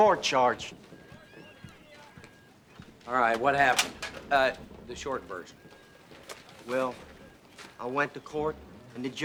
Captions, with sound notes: Bobby was here, wasn't he, Nick? (clattering)